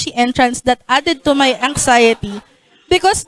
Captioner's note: laughter